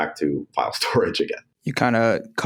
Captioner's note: laughs